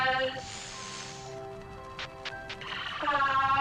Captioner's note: Static